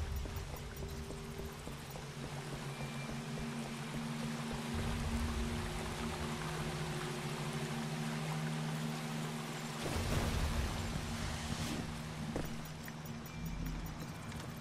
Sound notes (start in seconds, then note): none